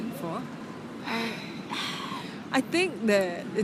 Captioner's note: collectively sigh